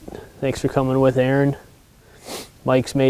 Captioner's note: sniffles